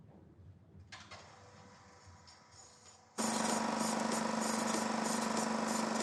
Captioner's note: film projector rattles